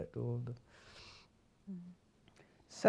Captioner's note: inhales; silence